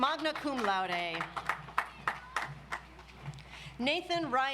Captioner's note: audience applauds